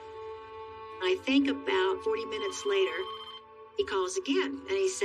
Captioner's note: phone rings